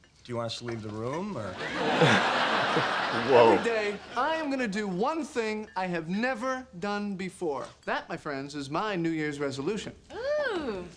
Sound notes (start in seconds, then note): 1.5 audience laughs